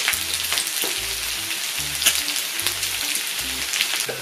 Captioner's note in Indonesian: Nyam nyam nyam